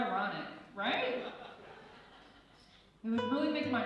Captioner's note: laughing